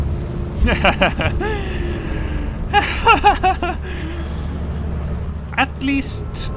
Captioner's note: nervous laughter